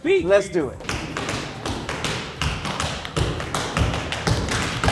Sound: tap dancing

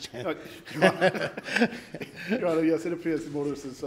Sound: laughs

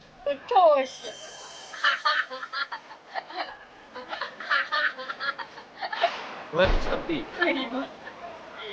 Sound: laughs

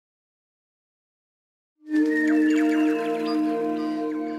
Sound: birdsong

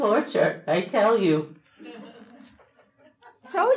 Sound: audience laughing

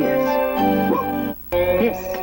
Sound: dog barks

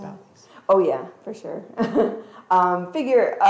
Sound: chuckles

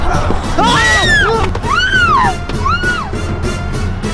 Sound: Lilly screaming

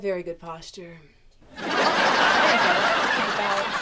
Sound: laughter

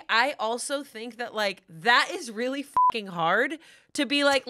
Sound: beep

